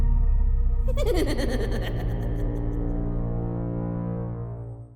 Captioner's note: speaker laughs maniacally